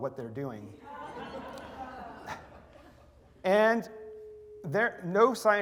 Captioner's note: laughter